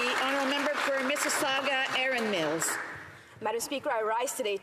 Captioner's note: applause